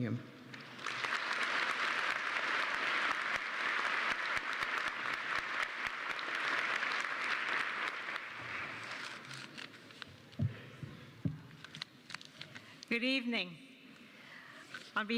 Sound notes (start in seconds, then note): 0.5 applause